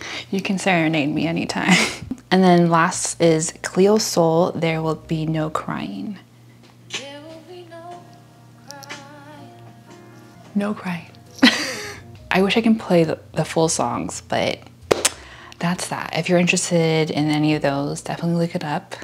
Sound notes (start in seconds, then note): 14.9 clap